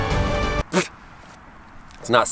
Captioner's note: spitting